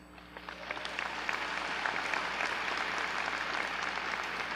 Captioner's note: audience clapping